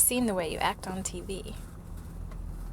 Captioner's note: none